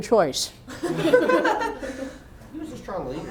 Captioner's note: laughter